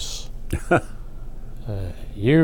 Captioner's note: laughs